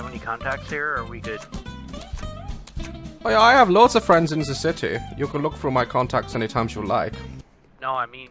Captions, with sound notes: (German accent) I have loads of friends in ze city. You can look through my contacts any time jou like.